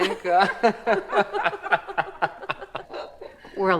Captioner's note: laughing